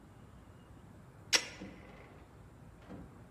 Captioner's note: click